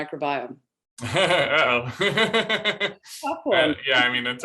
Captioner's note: laughter